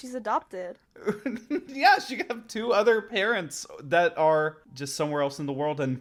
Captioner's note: laughs